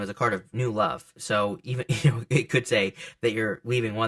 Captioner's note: chuckling